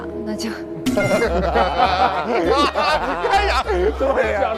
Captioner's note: hahahaha